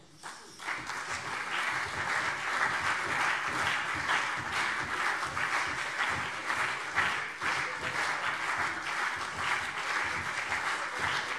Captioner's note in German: Anhaltender Beifall CDU und BÜNDNIS 90/DIE GRÜNEN